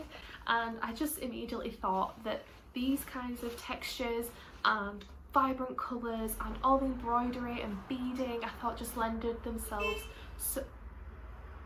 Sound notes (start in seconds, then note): 9.8 car beeps outside